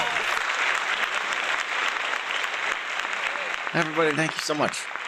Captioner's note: applause